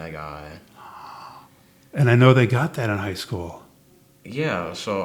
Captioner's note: gasps